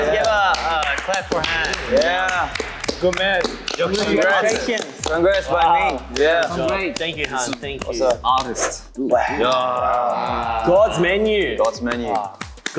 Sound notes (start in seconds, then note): 3.1 speaking Korean; 9.1 all sigh